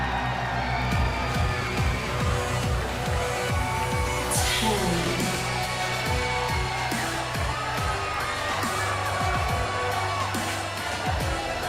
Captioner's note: crowd cheering